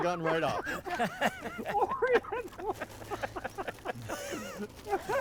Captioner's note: everyone laughing